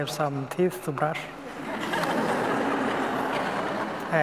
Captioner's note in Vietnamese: tiếng cười